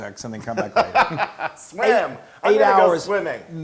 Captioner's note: laugh